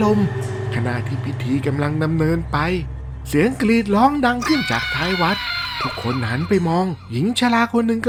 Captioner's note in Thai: เสียงกรีดร้อง